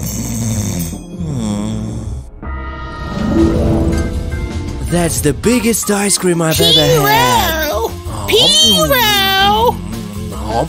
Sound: snoring

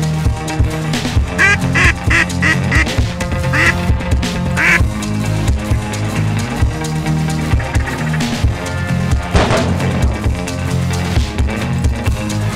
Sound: gun Shots; waterfowl Calling

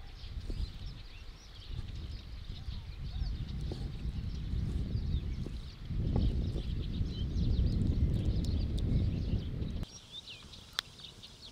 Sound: sound of birds

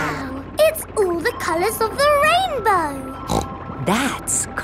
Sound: snorts

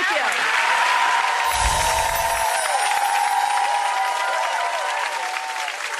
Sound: audience cheering and applauding

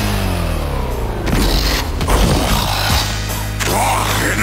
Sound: Sl4sh grunts

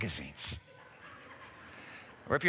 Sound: laughter

